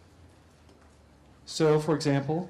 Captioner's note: pause